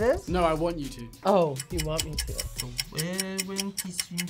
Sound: clock ticks

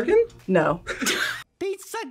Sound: both laugh

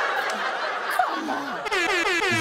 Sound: air horn blows

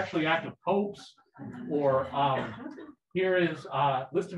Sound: people laughing

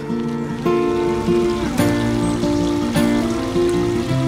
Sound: souond of flowing water from the stream

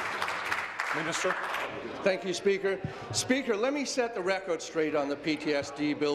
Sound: applause

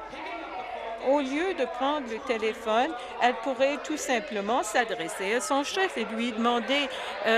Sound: chorus of "No"

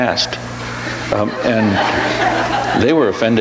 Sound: audience laughs

